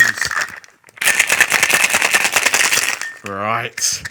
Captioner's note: rattling sounds